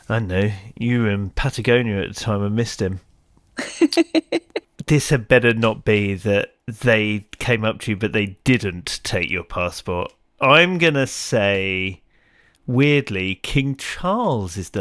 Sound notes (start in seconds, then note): 3.6 laughs